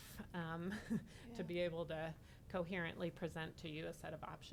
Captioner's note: laughing